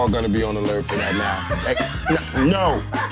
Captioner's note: cracks up